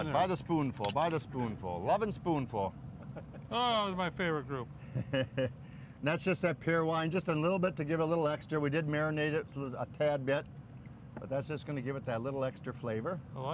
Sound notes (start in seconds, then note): 4.9 laughs